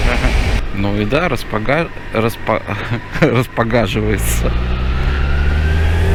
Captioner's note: laughs